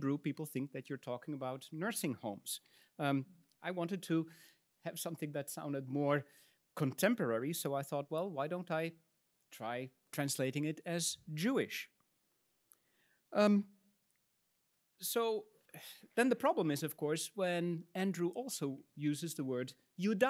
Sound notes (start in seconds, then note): 15.8 huffs; 19.1 speaks in Latin